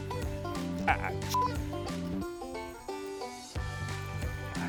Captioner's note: beep